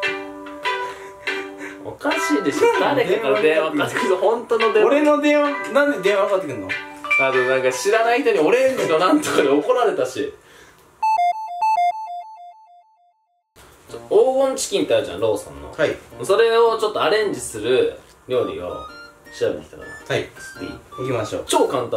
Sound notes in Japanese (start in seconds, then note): 11.0 薬局とかに入った時の音